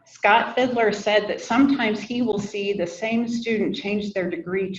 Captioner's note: none